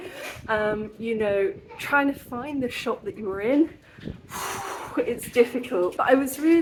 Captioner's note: exhale